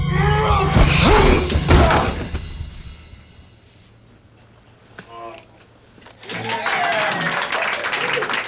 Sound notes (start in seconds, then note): 0.1 grunts; 5.0 moans